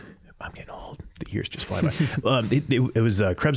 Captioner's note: all chuckling